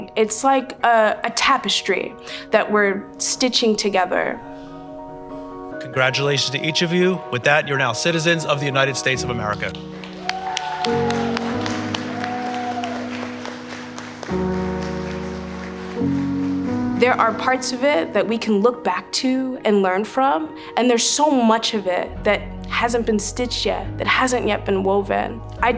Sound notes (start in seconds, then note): 10.1 audience applauding; 11.2 dramatic music